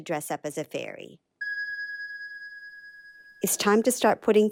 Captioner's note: bell rings